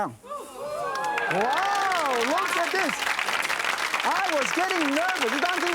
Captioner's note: audience woahs and cheers